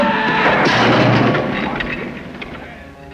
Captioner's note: cannon crashes